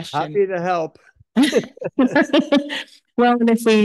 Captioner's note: laughs